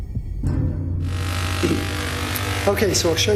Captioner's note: loud zapping